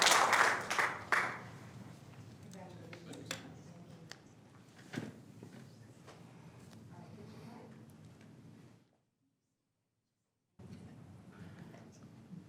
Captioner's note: applause